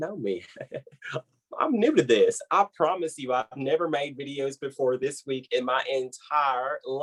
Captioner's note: laughing